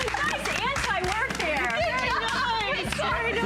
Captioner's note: applause